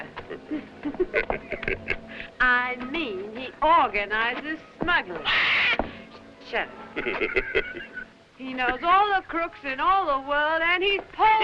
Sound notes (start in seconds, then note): 0.1 both chuckling; 5.2 bird screeching; 6.9 chuckling